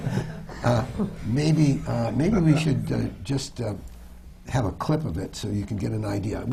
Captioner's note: laughter